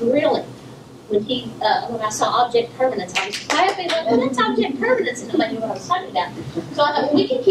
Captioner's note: clapping